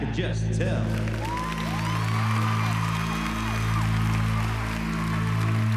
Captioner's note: applause